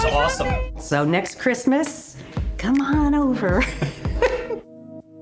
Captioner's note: laughs